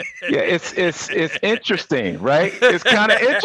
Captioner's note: Tigger laughing